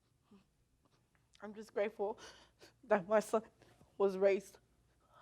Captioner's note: sobbing